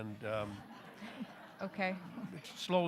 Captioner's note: audience laughing